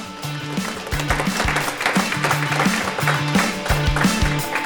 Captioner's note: applause